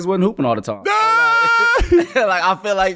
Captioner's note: laughing